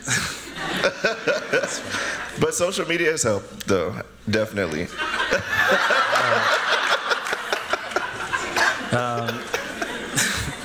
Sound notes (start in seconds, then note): 0.1 laughter; 4.9 laughter